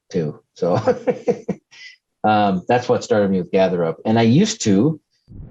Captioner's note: laughs